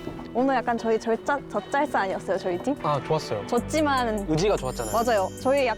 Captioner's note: slow walking